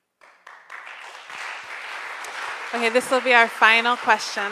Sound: crowd applauds

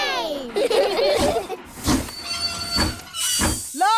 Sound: train chugs; laugh

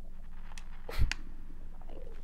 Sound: sniff

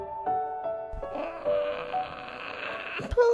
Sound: growling

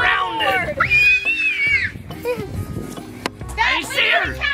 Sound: screaming

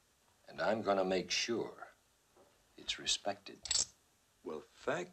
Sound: coins clink

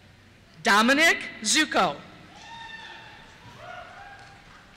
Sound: cheers

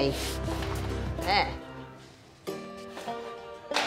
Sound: upbeat music; stick sliding against pipe

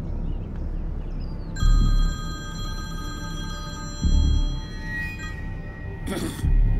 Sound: speaks foreign language; birds chirping; phone rings; Andrew clears throat

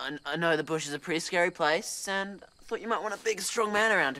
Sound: stammers

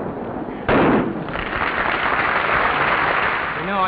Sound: audience clapping

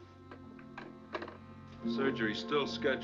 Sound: handset Settles In Cradle

